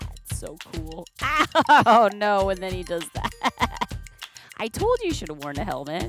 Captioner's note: laughs